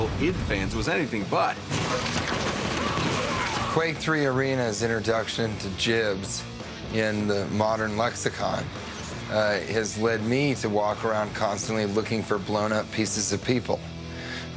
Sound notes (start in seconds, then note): 1.6 gunshots